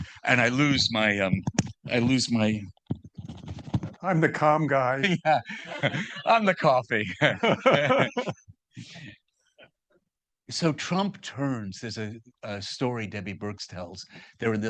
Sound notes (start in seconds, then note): 7.3 laughing